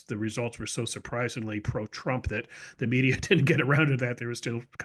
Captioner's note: laugh